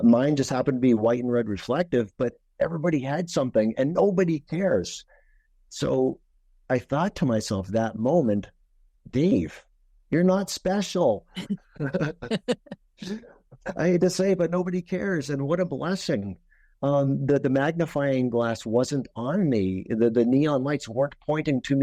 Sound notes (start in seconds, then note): 11.7 group laughing